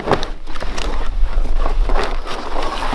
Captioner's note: log shifting; bark shifting